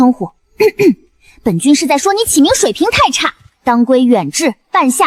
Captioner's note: cough